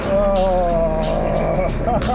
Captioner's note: groaning; laughing